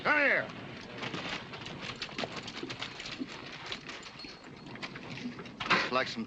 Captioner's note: horses cantering